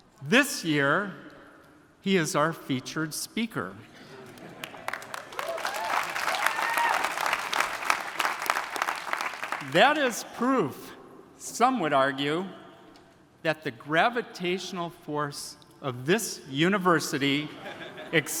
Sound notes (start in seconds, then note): 4.3 attendees applauding; 5.2 attendees cheering